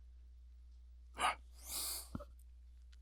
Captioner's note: sigh